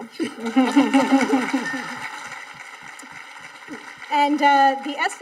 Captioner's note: audience applauding